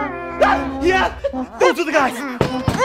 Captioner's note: squealing; alien beating on door